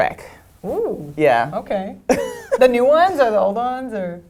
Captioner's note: laugh